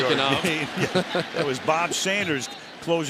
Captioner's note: laughter